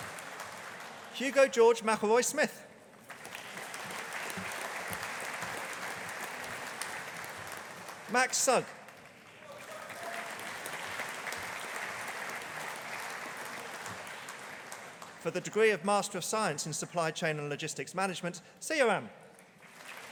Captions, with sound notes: Hugo George Mcelroy Smith. (AUDIENCE APPLAUDING) Max Sugg. (AUDIENCE APPLAUDING) For the degree of Master of Science in Supply Chain and Logistics Management, Siyaram.